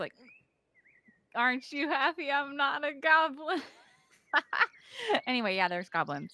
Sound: laughs

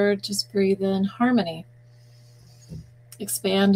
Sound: breathing in

